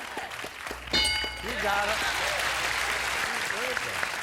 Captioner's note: applause